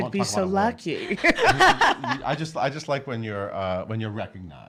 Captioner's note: laughs